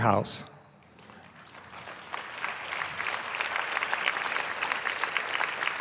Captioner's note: applause